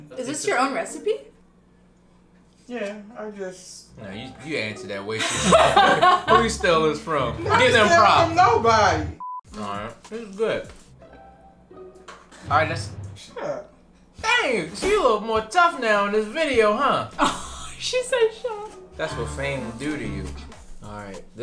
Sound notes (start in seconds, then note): 5.2 laughs; 9.2 electronic beep; 17.4 laughs